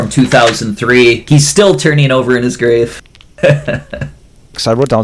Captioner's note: laughs